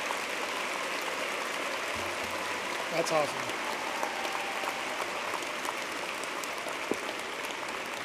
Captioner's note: applause